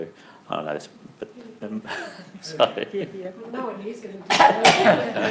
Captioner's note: audience mumbles